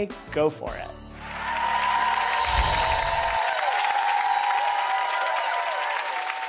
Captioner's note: cheering and clapping; bells chiming; audience cheering and clapping